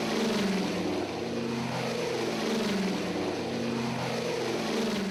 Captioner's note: airplane engines droning